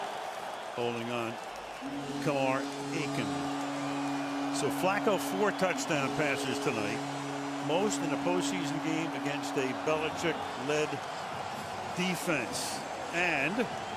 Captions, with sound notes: First down. Holding on Kamar Aiken. [horn honking] So Flacco, four touchdown passes tonight, most in the postseason game against a Belichick-led defense.